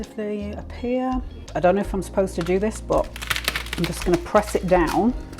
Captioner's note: crack crack crack